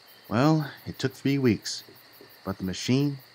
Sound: none

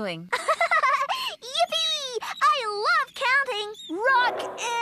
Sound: giggles

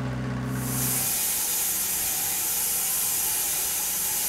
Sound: saw revving

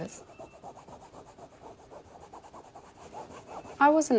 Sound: object Scratching

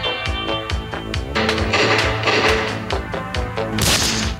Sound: gun shots

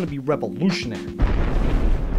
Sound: explosion

